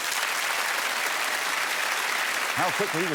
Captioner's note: applause